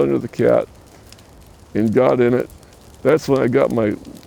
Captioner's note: fire crackling